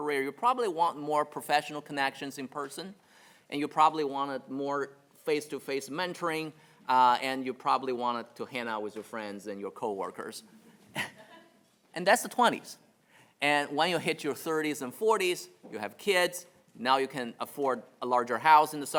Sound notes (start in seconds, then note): 10.5 chuckles